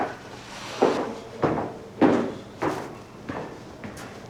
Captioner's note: footsteps echo